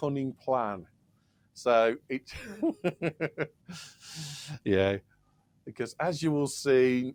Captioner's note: laughs